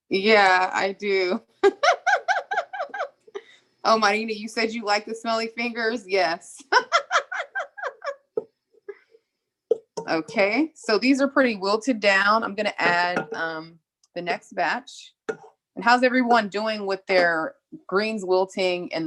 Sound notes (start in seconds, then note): 1.7 laughs; 6.8 laughs